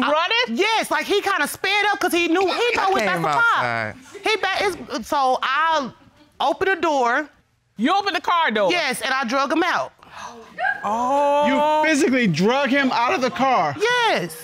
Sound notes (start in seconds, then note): 10.5 woman squealing